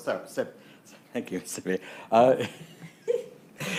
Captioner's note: laughs